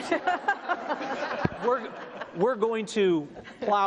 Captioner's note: audience laughs